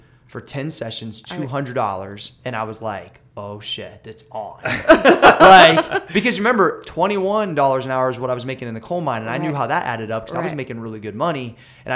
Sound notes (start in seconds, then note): 4.6 laughter